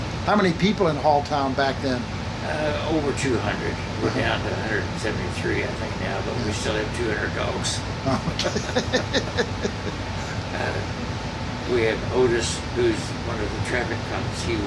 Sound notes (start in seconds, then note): 8.0 laughing